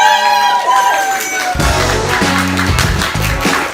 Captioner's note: cheering; lively music